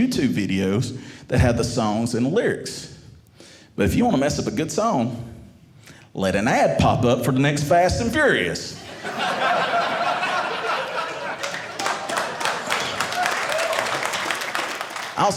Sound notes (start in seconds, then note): 8.7 audience laughing; 11.2 audience applauding